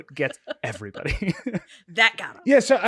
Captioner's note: laughing